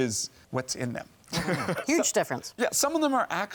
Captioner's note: laughs